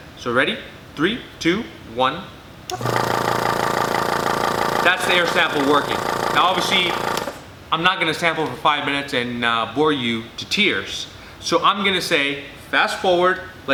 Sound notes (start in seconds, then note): 2.7 machine whirring loudly; 7.4 machine clicks off